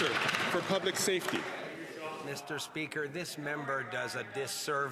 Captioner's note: some Applause